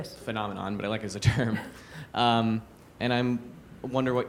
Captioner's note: chuckles